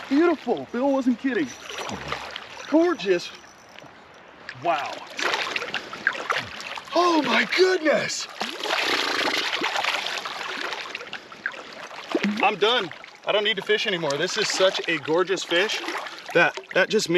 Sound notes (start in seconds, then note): 0.0 fish splashing; 2.4 fish splashing; 6.2 fish splashing; 10.7 fish splashing